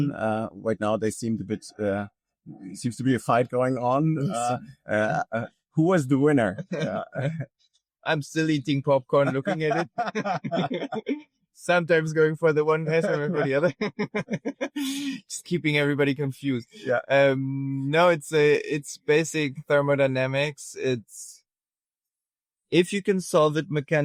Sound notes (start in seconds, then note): 4.9 chuckles; 9.1 laughing; 14.6 laughing